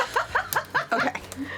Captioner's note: laughing